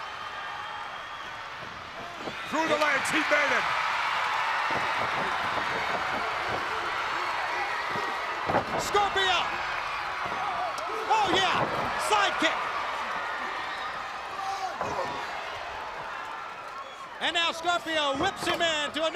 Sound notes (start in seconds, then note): 0.2 crowd cheering; 3.8 crowd cheering; 10.3 crowd cheering